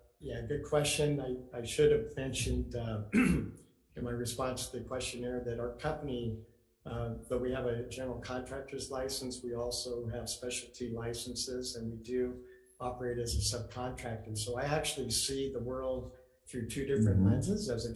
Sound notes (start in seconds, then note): 2.6 clears throat